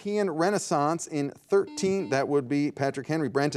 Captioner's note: soft buzzing